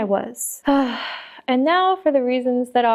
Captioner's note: another big sigh